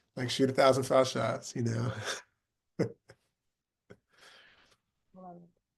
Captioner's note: laughing